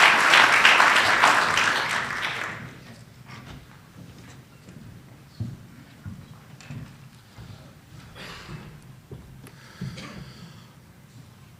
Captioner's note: applause